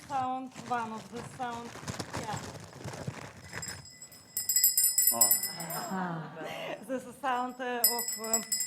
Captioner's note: sound of bell ringing